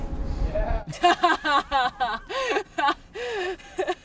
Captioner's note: laughs